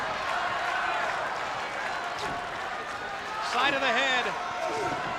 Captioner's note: applause